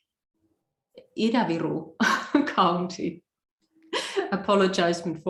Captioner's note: laughs